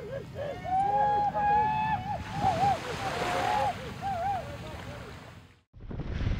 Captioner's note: cheering